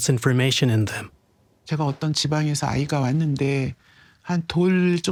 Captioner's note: speaking Korean